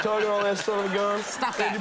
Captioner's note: audience laughing